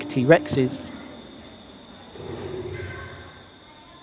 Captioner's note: roaring of a T-Rex